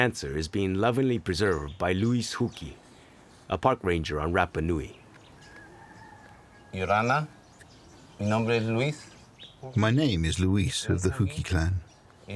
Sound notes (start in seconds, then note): 8.0 speaking Spanish